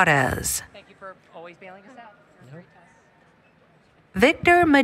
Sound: background Conversation

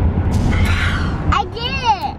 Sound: exhales emphatically

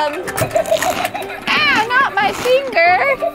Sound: shark laughs

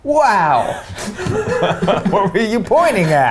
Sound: laughs

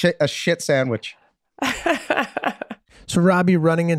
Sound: Meg laughs

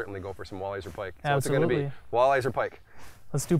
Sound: pat

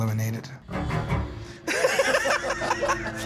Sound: laughter

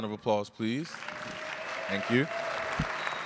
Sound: applause and cheers

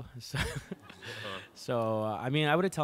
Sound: laughing

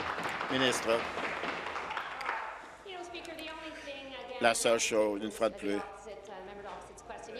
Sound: applause

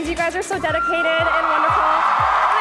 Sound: cheering

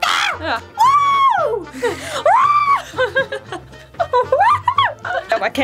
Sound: woo-ing

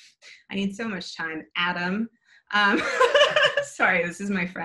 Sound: laughs

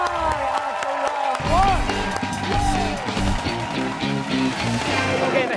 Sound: cheers and applause

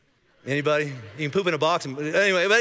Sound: congregation laughing

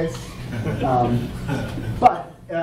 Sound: audience laughing

